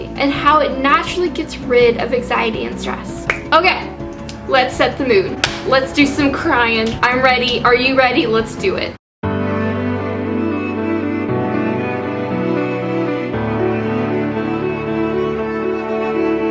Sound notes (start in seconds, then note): 5.4 clap